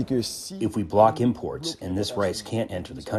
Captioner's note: through translator